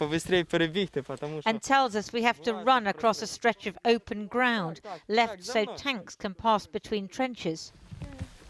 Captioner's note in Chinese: 俄语